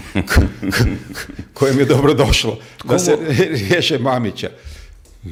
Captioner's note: laughter